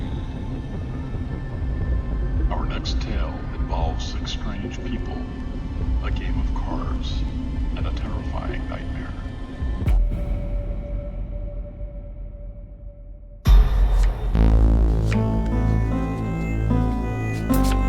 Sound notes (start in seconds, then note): 9.9 eerie whistle sound; 13.4 boom sound; 14.3 mystery music begins playing; 17.3 sound of playing cards